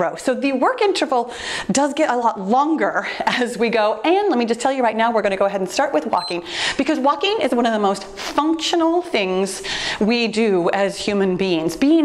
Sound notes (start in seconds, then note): 6.1 timer beeps